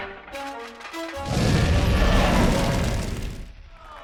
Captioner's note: roars; cheers and applause